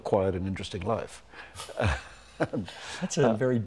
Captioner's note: chuckling